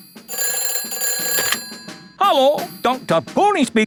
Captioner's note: ringing